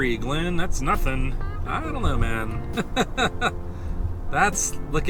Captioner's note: laughter